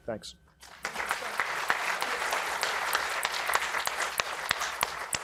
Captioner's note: audience applauding